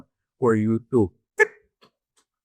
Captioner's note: speaking foreign language